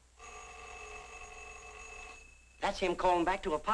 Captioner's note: phone rings